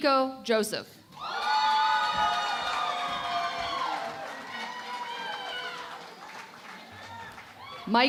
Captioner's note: cheering and Applause